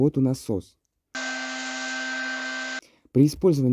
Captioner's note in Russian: Звуки работающего насоса